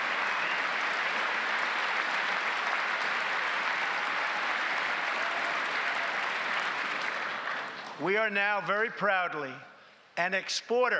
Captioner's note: applause